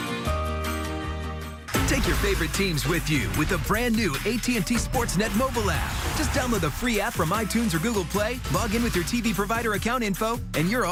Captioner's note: trunk door shuts down, car engine starts, music fades